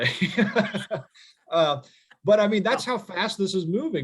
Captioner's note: chuckling